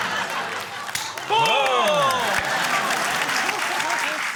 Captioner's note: laughter; applause